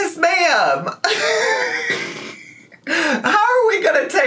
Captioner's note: laughing